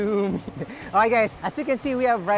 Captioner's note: laughs